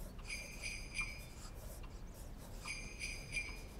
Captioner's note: bells jingling